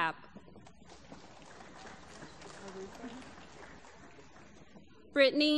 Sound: applause

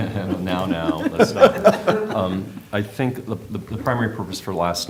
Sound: laughter

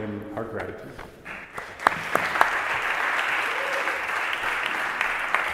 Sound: assembly applauds

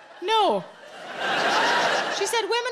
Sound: audience laughing

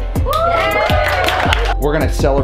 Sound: everyone cheers

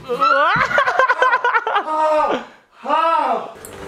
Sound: laughing

